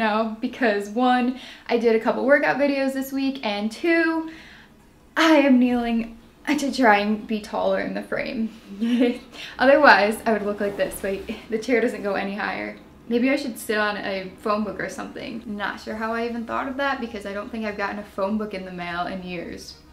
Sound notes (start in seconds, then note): 4.3 deep breath; 8.7 giggle